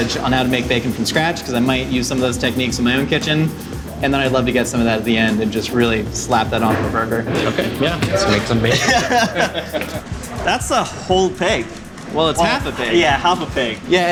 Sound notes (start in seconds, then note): 7.3 laughing